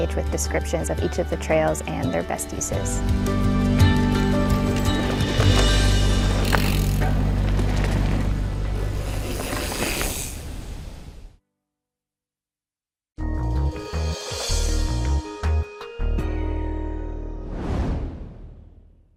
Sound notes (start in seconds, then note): 3.0 gentle music; 4.6 bicycles zooming